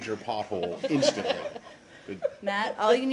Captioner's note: laughter